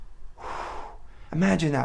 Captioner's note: exhales deeply